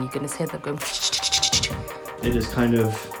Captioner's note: shushing